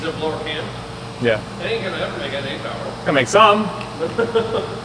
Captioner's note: engine revving